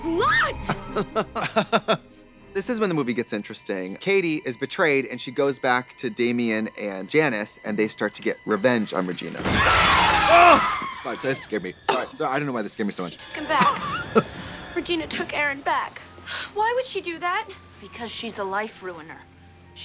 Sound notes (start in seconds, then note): 0.6 blonde women giggle; 9.5 Janis and Damian scream; 10.5 Katya hollers